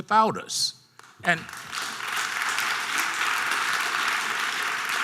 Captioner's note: audience applause